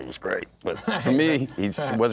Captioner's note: laughs